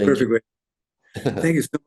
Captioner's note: laughs